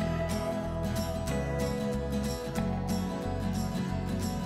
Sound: boat engine running

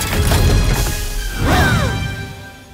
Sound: all exclaim

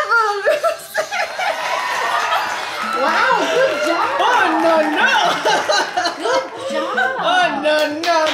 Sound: applause

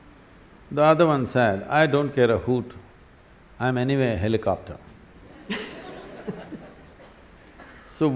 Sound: laughter

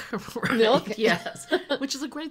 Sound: laughing

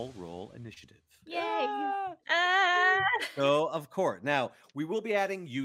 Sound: all cheer and scream

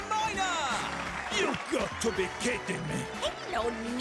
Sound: applause

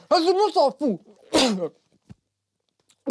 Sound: spits

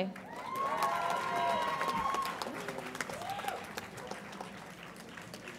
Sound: audience applauds and cheers

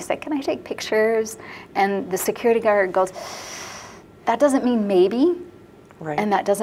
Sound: sucks in air

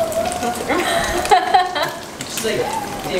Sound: chuckles

